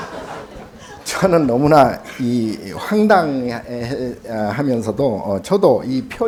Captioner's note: audience laughing; speaking Korean